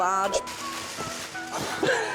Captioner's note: paper rustles; laughter